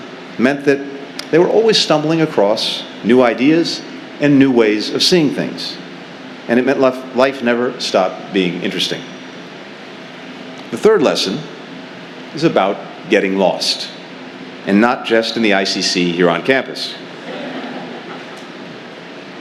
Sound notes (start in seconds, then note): 17.2 laughter